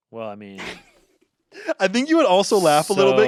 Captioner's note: laughs